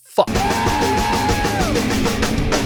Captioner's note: cheering